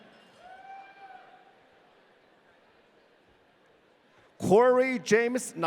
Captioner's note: audience cheering